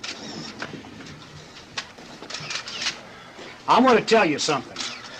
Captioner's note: cameras clicking